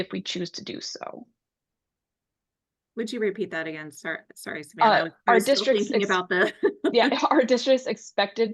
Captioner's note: chuckles